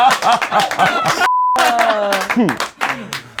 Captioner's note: clapping and laughing